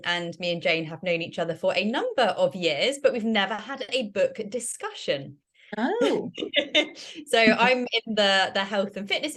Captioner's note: laughter